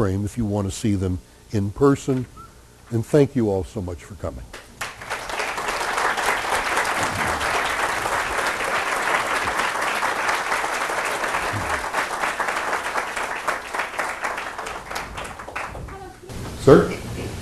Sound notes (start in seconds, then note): 6.2 applause